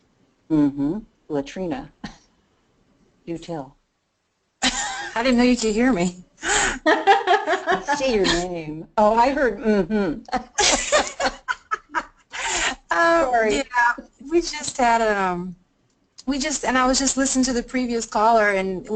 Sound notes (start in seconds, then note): 6.5 laughing; 10.8 laughing